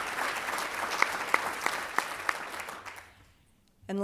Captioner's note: applause